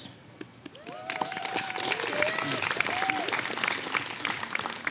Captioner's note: applause